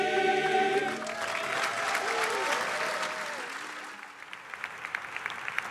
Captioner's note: audience applauding